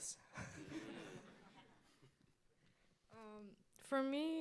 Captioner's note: audience laughs